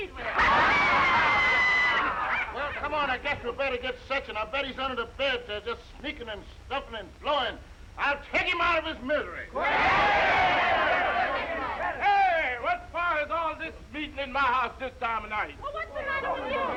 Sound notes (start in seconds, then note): 0.2 all laughing; 9.5 crowd cheering